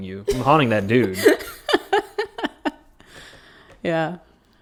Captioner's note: laughs